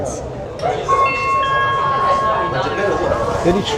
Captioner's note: chime